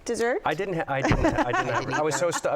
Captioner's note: laughs